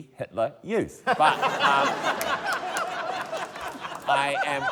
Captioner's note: laughter